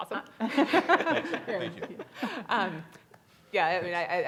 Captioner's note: panelist laughs